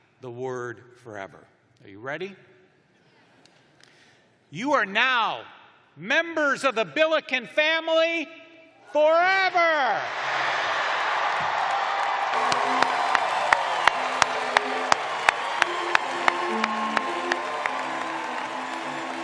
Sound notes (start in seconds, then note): 5.6 cheers and applause